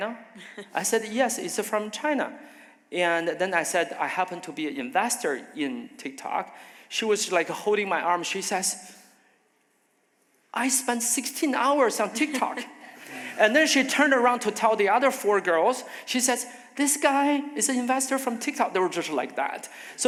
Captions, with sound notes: I said, "Yes, it's from China." Then I said, "I happen to be an investor in TikTok." She was like holding my arm. She says, "I spend 16 hours on TikTok." [laughs] Then she turned around to tell the other four girls. She says, "This guy is an investor from TikTok." They were just like that.